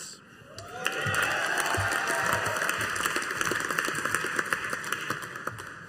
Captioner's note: audience applauding